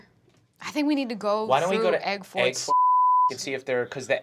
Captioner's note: beep